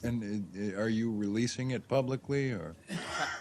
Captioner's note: laughter